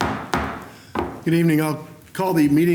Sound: gavel

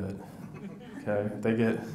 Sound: audience laughs

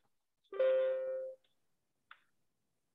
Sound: computer dings

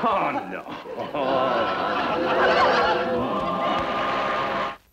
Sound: audience laughs

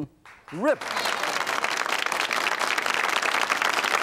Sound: audience claps

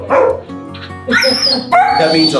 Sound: dogs barking

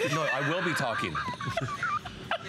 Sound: laughter

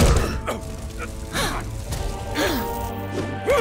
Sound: gasping, groaning; grunting

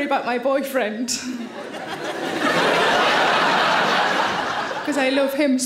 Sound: audience laughing

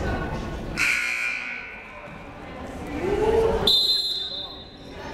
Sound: buzzer sounding; whistle blowing

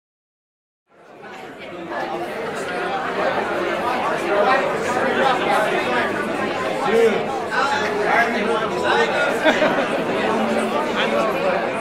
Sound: crowd talking

